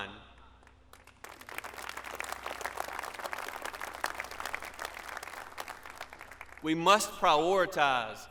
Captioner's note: applause